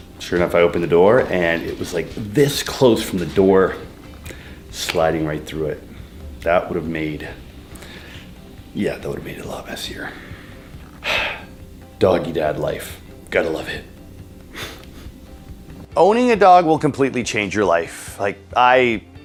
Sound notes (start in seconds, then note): 10.0 sighs; 14.5 chuckles